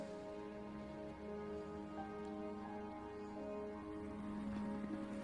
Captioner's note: gentle somber music; helicopter fluttering